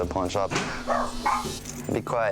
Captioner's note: dog barks